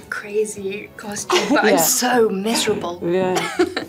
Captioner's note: laughing